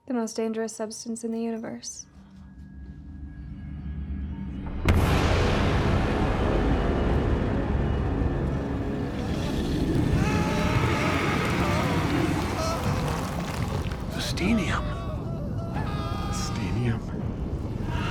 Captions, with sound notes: - The most dangerous substance in the universe. (dramatic music) (people screaming) - The Steenium. - The Steenium.